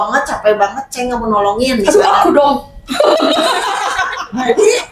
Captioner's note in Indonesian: tertawa